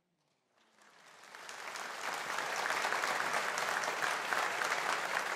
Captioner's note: audience applauding